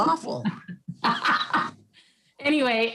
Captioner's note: laughs